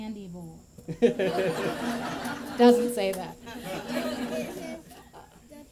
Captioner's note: laughter